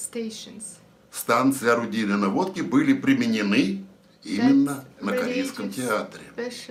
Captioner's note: foreign language